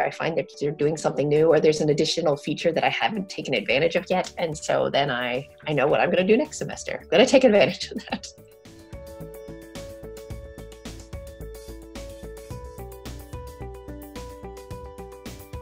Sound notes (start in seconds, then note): 7.8 chuckling